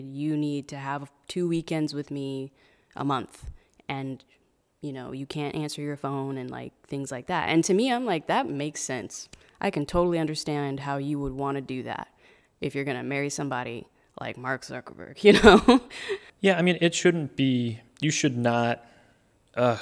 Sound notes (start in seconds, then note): 15.4 laughing